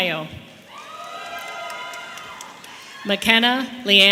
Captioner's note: audience applauding and cheering